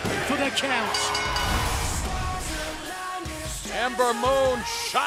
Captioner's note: bell ringing